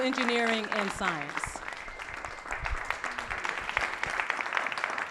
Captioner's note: applause and cheering